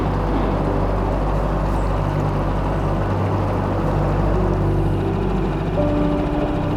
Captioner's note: boat engine humming; calm music